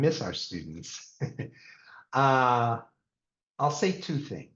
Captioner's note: laughs